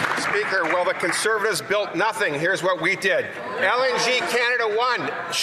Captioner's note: some Applause